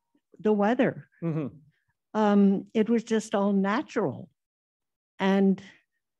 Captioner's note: um hmm